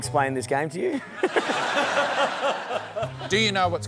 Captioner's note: laughter